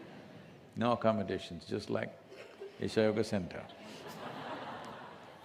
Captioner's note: few laugh; laughter